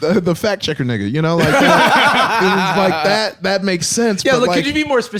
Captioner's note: all laughing